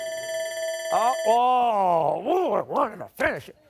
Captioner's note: timer sounding